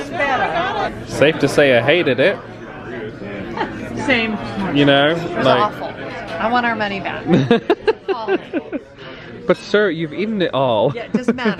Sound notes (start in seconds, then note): 7.3 laughing